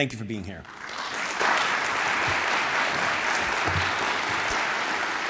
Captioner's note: audience applauds